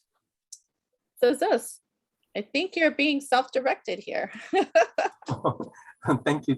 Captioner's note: laughing